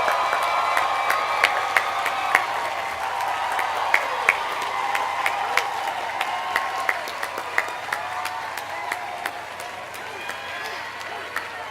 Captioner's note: applause